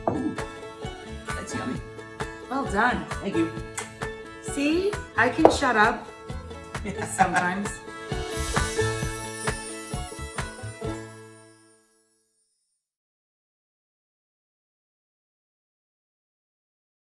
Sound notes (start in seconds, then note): 4.3 lips smacking; 6.8 laughs